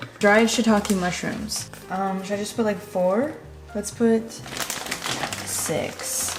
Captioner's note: crinkling